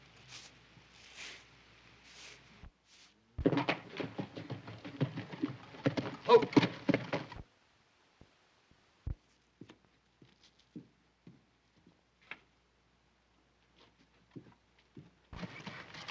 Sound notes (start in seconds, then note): 3.4 horse approaching